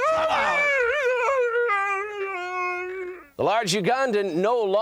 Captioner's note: Kamala speaks in foreign language